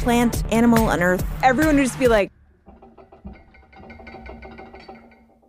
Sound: shaking sound

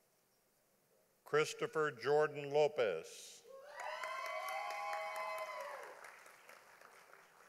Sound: audience applauding

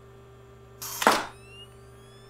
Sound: camera flash

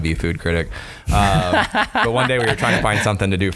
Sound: laughter

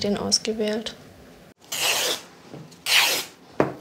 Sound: tearing noises

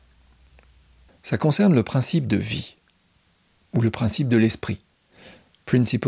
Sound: in french

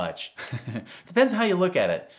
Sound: chuckling

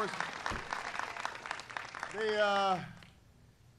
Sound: applause

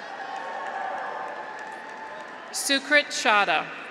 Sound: audience applauds; graduates cheer

